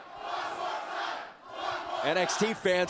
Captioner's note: crowd cheering